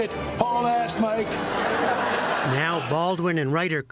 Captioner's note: laughter